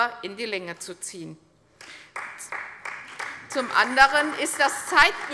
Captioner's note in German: Beifall bei der CDU und dem BÜNDNIS 90/DIE GRÜNEN